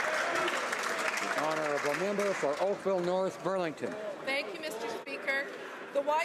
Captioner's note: some Applause